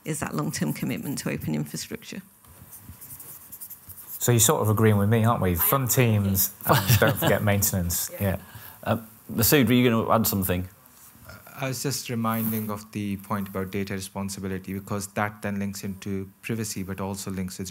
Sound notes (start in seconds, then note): 6.7 laughs